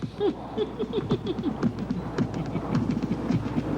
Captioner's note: Clell Stifling Laughter